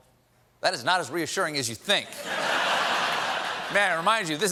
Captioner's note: laughter